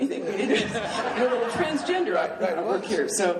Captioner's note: laughing